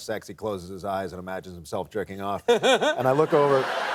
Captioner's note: laughter